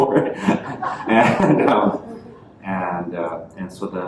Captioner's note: laughter